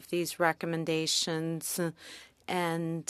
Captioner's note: speaking French